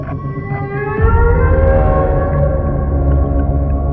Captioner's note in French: Chant d'un rorqual